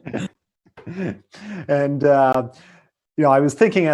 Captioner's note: laughing